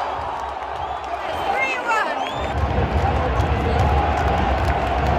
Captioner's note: stadium Chanting